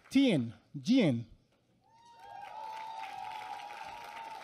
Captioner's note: applause